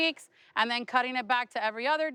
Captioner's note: none